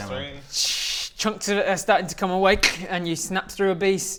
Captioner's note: winces